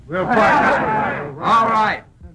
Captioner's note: men yell